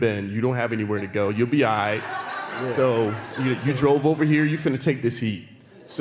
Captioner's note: laughter